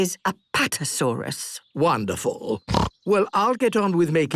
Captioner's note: snorts